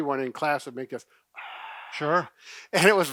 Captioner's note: exhaling